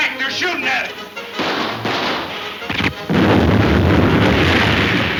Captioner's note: guns firing; keg exploding